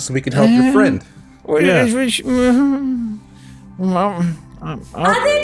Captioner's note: significant amounts of Old Man grumbling